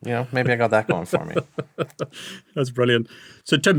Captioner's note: laughs